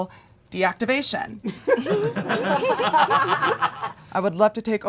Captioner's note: audience laughing